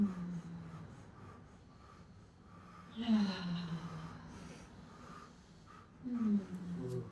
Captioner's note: sighs